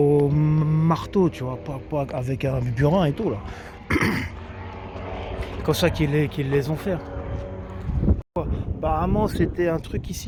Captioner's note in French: toux